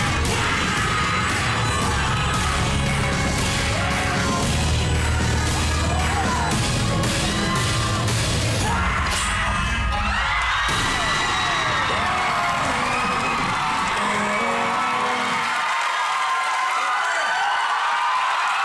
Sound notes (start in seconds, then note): 0.2 shouting; 9.1 all shout; 9.8 audience loud cheering, applauding